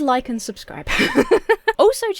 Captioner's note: laughs